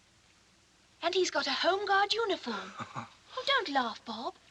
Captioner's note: chuckles